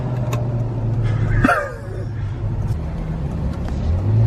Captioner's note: laughs